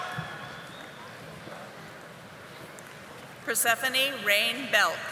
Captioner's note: audience applauding